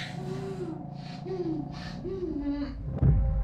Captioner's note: Sarah pants